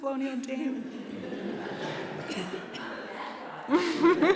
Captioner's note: laughter